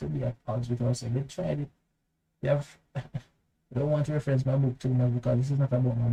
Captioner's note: chuckle